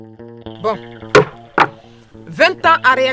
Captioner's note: hammer strike